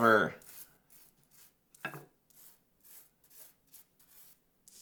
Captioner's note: gentle rustling